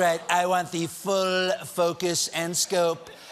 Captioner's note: trump accent